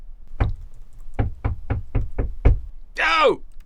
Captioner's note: knock on Eliot’s door